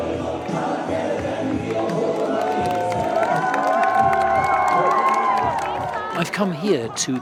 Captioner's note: crowd cheering